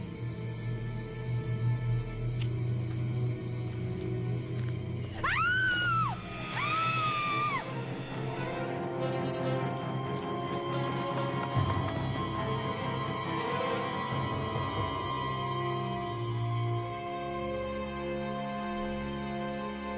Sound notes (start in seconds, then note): 5.1 Vicky screams; 8.0 suspenseful music